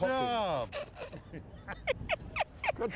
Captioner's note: all laughing